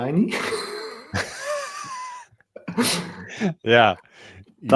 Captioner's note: laughter